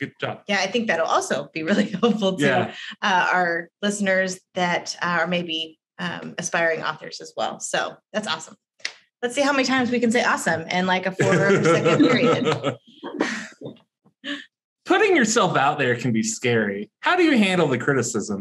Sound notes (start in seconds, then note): 11.2 all laugh